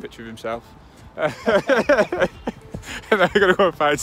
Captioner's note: laughter